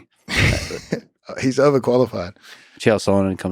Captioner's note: Craig laughs